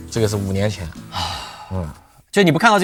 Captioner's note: sighs